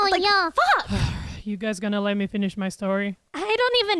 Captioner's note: sighs